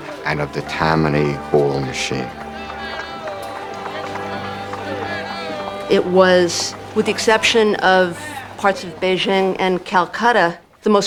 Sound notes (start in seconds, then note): 2.6 vendors Shouting, Hoofbeats Pounding